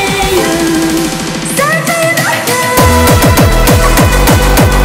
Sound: ha ha ha ha ha

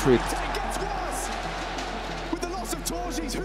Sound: cheering

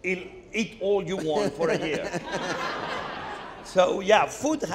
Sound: Anderson and audience laughing

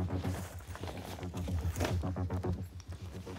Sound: loud rustling

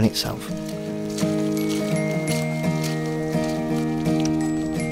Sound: sound of footsteps spashing

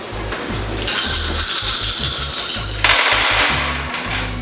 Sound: dice rolling

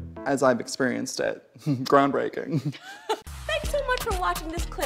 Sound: both laugh

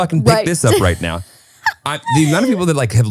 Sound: laughing

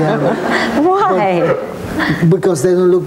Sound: laughing; laughs

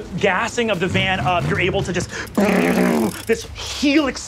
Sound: mimics engine revving

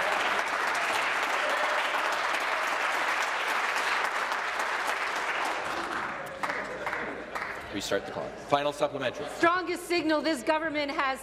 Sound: applause

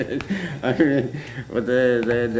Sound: laughter

